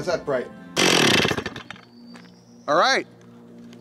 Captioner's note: chainsaw motor growling